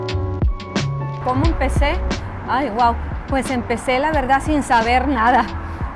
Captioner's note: cheerful music; speaks in Spanish